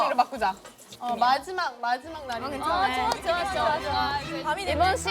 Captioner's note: fireworks are going off